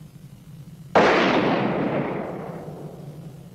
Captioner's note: gunshot